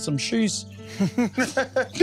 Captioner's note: laughing